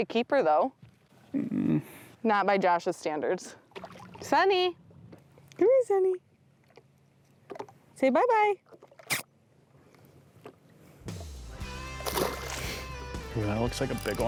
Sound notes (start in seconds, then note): 10.1 kiss smacking; 11.1 upbeat music